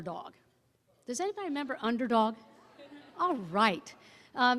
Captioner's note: audience laughing